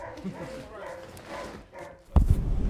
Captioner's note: nose taps microphone